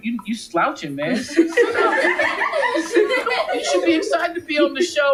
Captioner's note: audience laughing